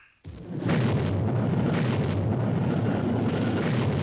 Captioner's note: rocket engine roaring